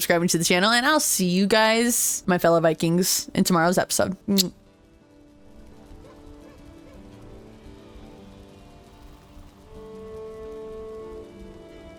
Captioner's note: kiss